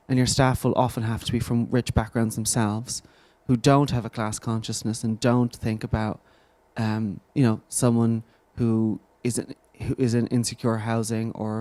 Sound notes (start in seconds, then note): none